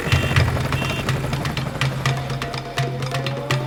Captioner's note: horn honks; dramatic music continues; engine roaring